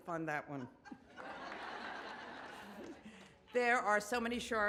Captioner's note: audience laughs